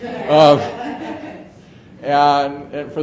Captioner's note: audience laughs